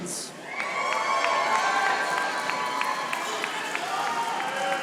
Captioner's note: audience applauding